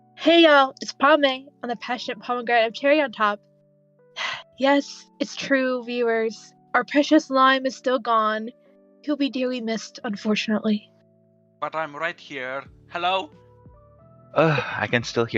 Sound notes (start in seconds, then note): 4.1 sigh